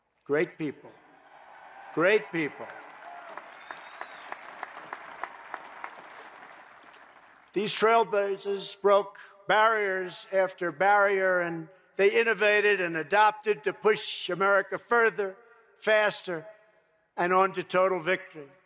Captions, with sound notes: Great people. Great people. (applause) These trailblazers broke barriers after barrier, and they innovated and adapted to push America further, faster, and on to total victory.